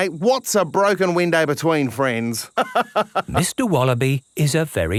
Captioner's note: laughs